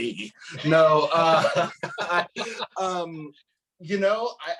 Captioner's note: laughs